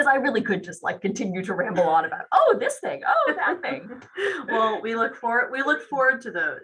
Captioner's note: laughs